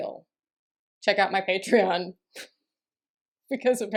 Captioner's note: laughter